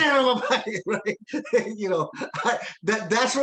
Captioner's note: laughing